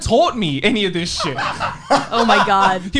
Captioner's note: laughs